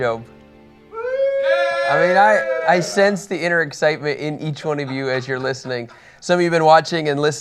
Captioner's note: cheering